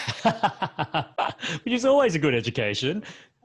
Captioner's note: laughs